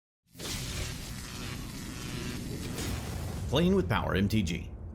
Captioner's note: electricity humming